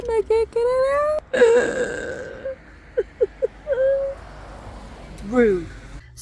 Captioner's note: cries